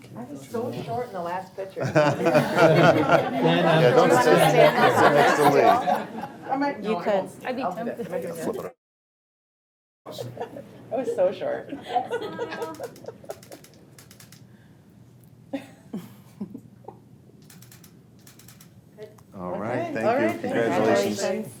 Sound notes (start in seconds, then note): 3.4 group laughs